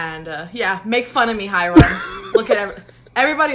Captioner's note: laughs